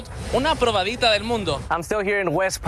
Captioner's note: speaks in Spanish